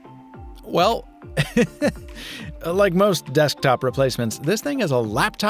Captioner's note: laughs